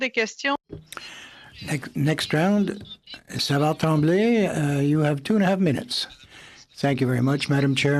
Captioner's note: speaking French